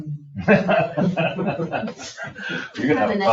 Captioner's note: people laugh